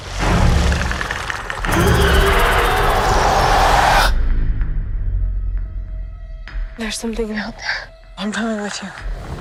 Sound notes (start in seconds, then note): 0.8 Predator clicking; 1.6 Predator growling